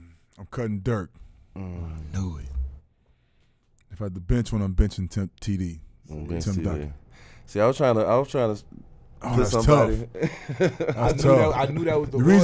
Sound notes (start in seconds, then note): 10.1 laughing